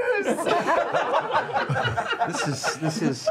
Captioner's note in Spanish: risas